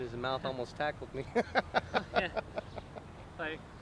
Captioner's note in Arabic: يضحك